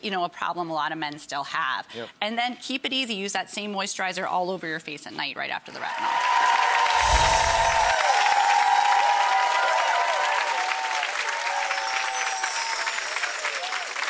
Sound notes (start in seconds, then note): 5.8 audience cheering; 9.5 chiming